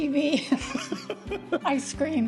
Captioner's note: laughs